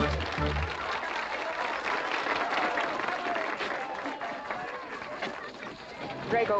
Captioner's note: audience applauding